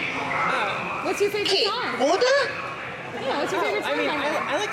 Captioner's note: speaking alien language; Ouannii speaking alien language